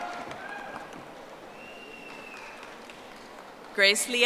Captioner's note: audience applauding